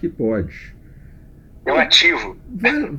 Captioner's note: laughs